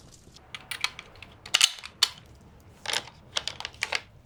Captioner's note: gun clicking